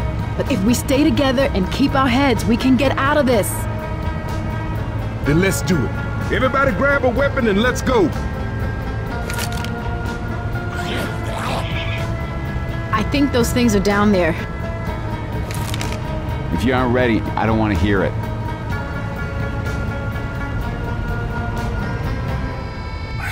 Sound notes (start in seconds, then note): 10.7 zombie sounds